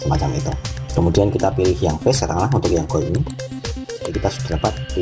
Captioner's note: click